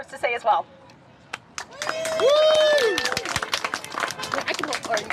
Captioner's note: cheering and applause